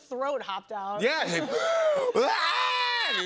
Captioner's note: both imitate scream